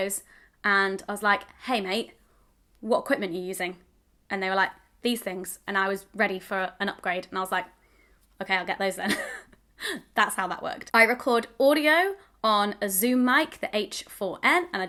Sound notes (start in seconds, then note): 9.5 laughs